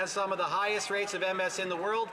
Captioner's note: some Applause